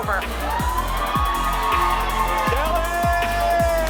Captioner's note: audience shouts